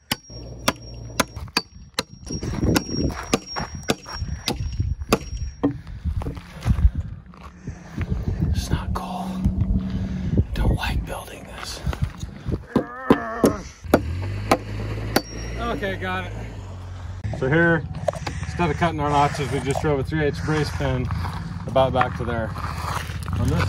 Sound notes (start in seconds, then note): 11.8 whispers; 12.5 groans; 12.6 hummer clacking